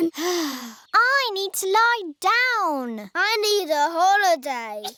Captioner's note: sighs